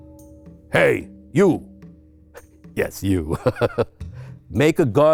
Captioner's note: laughs